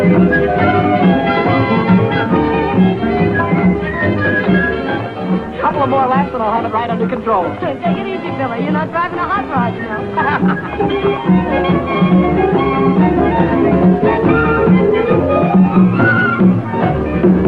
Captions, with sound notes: - A couple of more laps and I'll have it right under control. - Take it easy, Billy, you're not driving a hot rod tonight. (Billy laughing) (dance music)